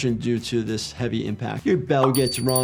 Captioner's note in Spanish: none